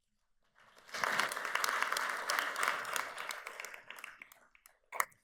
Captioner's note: audience applauds